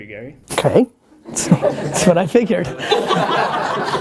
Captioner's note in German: Lachen; lacht